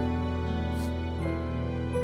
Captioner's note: Sniffs